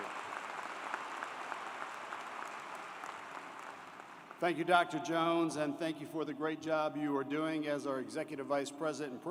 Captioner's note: applause